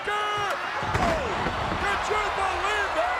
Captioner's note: bodies thudding